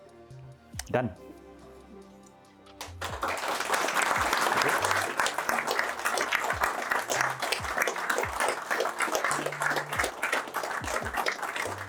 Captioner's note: applause